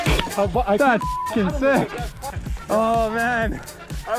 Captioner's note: beeps